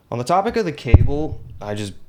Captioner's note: mic bump